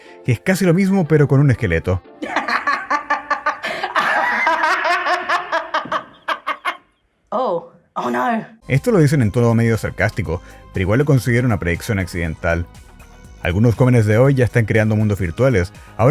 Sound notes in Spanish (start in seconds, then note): 2.2 risas